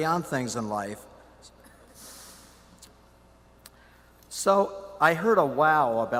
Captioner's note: silence